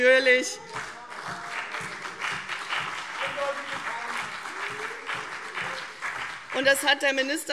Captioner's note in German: Beifall CDU und BÜNDNIS 90/DIE GRÜNEN - Zurufe